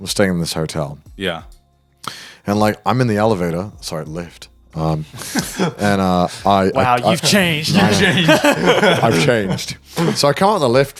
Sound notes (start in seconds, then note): 5.1 laughs; 8.4 laughing